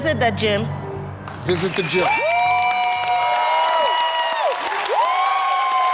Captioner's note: audience applauding